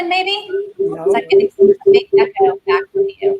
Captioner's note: microphone noise